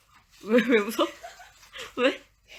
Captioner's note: laughs